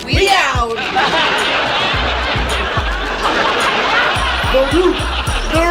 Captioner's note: audience laughs